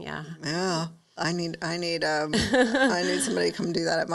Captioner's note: laughing